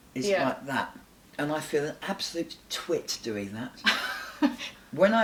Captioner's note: laughs